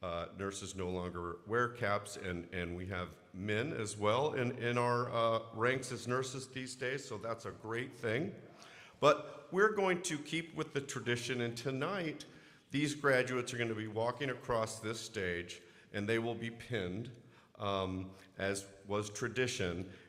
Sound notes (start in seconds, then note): none